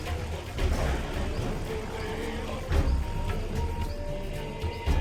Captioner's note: plane engine roars; thunder claps